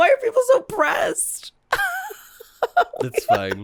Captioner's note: giggles